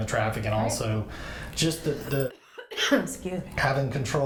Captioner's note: coughs